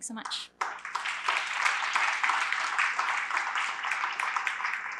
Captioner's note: applause